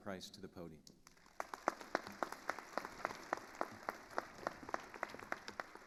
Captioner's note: attendees applauding